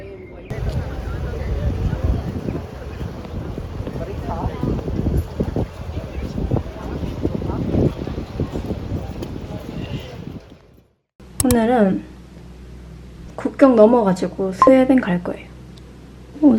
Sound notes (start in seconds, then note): 5.1 wind